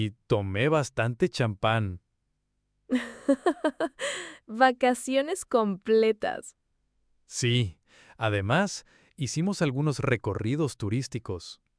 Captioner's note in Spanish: risas